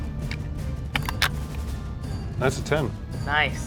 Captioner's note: die rattling